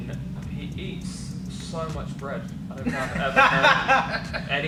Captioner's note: laughter